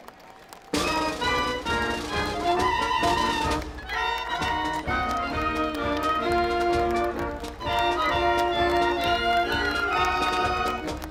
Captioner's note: applause, cheering; lively orchestral music